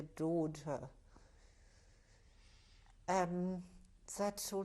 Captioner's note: pauses for 3 seconds